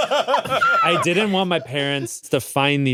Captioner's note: laughs; squeals